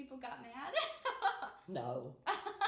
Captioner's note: laughing